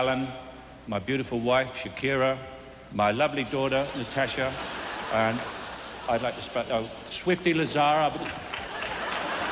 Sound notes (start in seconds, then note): 8.2 laughter and applause